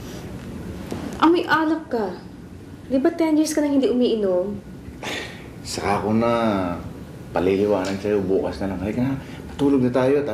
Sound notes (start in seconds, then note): 5.0 exhales